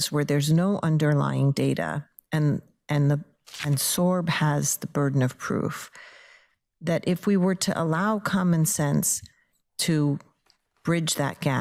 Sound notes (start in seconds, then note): none